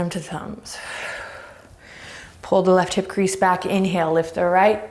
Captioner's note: deep breaths